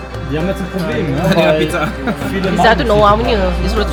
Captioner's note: laugh